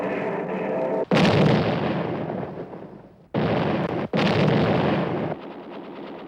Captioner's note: explosions